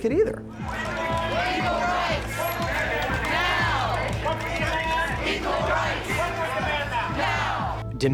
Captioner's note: protesters chant